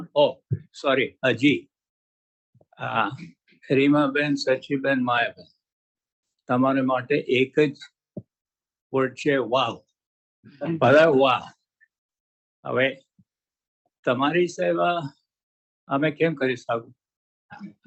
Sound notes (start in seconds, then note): 6.4 non-english speech